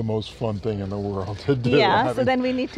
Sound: laughs

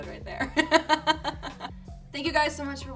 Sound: laughs

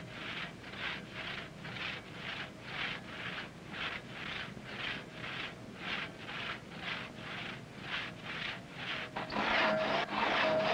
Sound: loud sawing

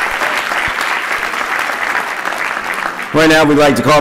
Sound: applause

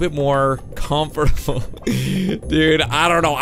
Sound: laughing

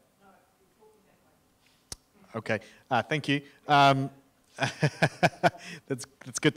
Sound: laughs

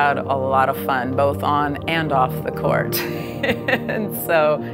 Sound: laughs

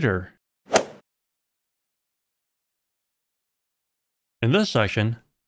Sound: golf ball hit sound

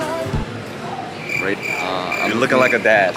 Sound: crickets chirping

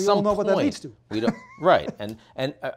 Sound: laughing

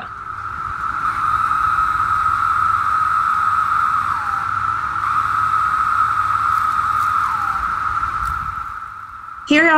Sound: cicadas Calling

